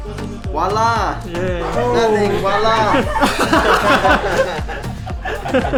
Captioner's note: chuckles